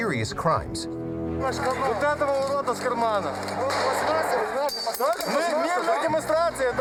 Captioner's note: speaking foreign language